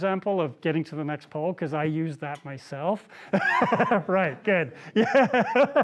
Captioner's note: laughs